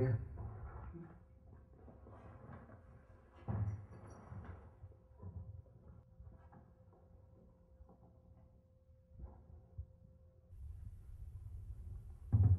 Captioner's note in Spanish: sin sonido